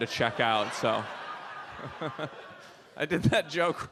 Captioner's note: audience laughs